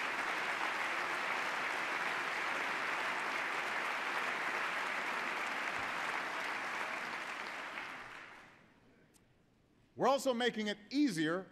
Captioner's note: applause